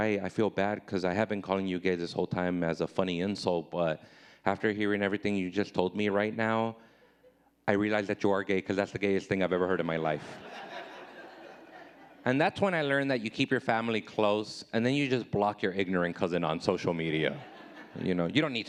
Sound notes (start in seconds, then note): 10.2 audience laughing